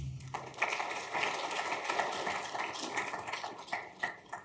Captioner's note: audience clapping